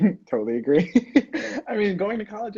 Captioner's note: laughing